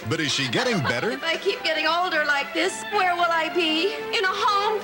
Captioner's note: Stephanie, sobbing